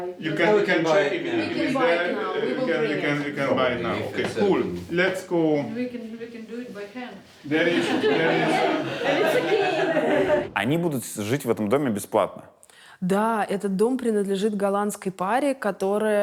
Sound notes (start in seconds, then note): 7.6 all laugh